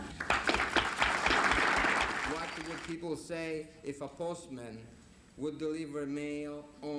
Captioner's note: applause